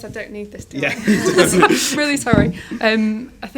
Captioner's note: they laugh